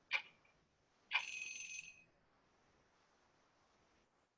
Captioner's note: alarm ringing